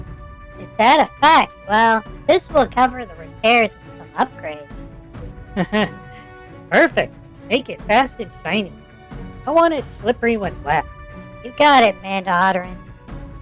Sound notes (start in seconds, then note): 5.5 laughs